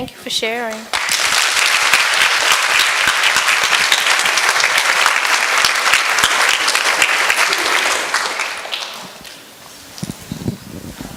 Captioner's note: applause